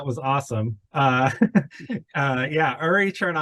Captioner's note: chuckles